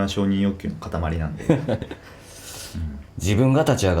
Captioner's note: laughs